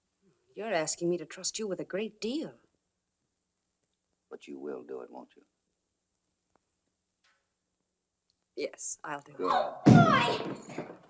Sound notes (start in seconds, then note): none